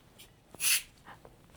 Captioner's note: hissing sound